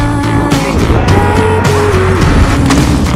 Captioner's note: both screaming murder, again